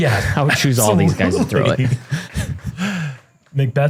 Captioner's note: laughter